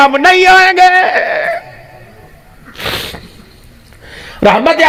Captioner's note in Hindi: नाक से की जाने वाली आवाज़